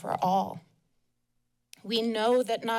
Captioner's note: pause